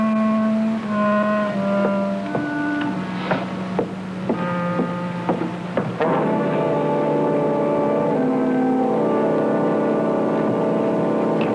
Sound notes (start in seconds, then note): 1.7 footsteps; 6.1 dramatic music